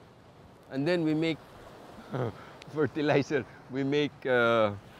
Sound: chuckles

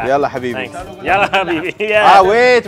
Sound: all speak foreign language

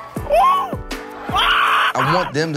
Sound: kid screams

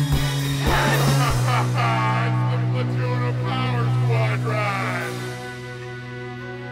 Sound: maniacal laughter

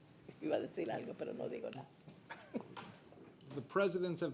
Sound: speaking Spanish

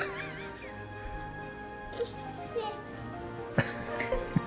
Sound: father behind camera laughs

